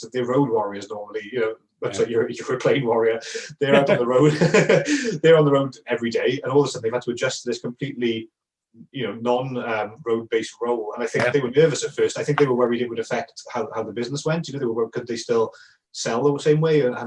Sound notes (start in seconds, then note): 2.5 laughing